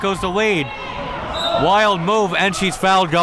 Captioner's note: whistle tweeting